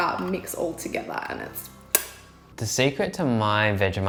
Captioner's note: smacks lips